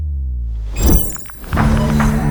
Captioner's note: electronic buzzing; upbeat music